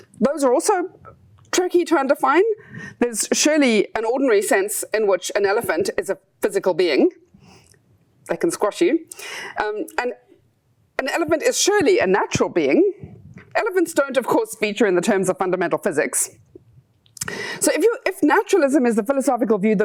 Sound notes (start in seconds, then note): none